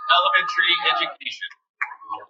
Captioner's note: cheering